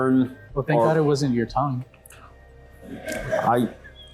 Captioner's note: both laugh